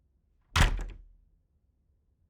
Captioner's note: door closing